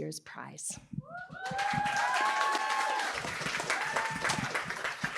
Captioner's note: applause